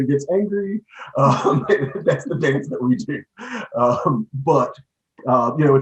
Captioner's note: laughing